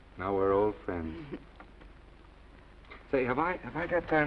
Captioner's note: Esther laughs